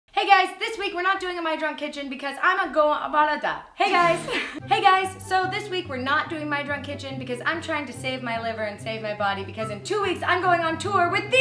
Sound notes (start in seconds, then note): 3.8 laughs